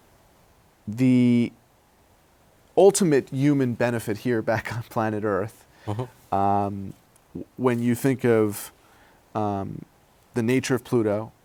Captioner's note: laughs